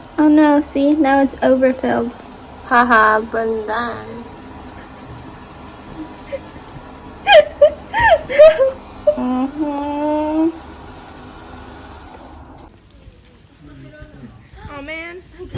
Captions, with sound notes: oh no! see, now it's overfilled ha ha stupid [laughing] no! aww man